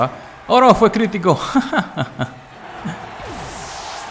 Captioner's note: laughs in 1 HP